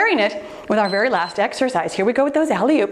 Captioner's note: timer beeps